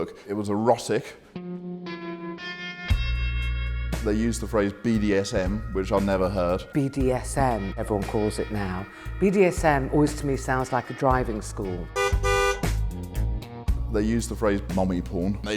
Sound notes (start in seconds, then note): 11.9 car horn honks